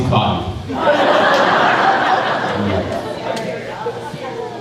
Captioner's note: crowd laughing